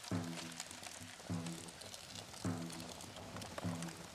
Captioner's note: sound of flames crackling